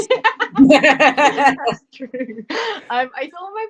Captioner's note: laughter